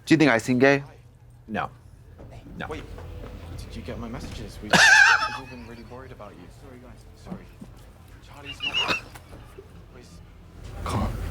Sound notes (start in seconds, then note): 4.8 Katya crinkles; 9.1 blonde Women swish